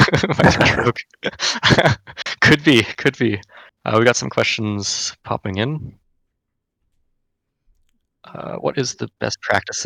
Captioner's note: laughs